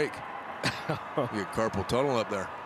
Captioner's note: chuckles